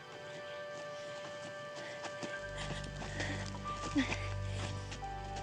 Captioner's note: footsteps, heavy breathing